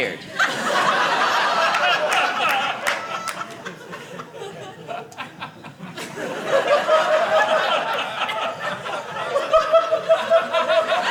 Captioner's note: audience laughing